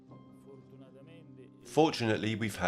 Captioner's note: speaking in foreign language